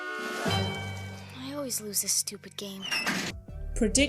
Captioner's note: door slams